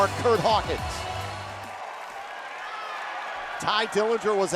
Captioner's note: crowd cheering